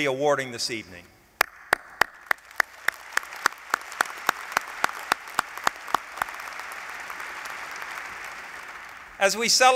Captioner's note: applause